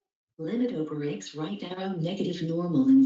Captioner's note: computer Voice